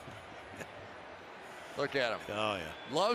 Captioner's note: laughter